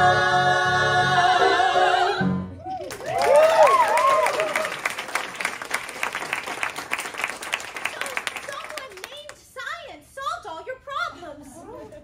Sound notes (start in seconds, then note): 2.6 cheering, applause